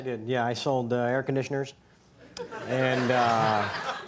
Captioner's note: audience laughs